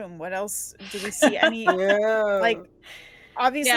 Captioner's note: laughing